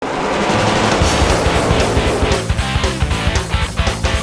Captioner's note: loud race sounds